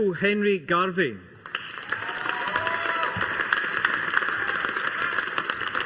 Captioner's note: audience applauding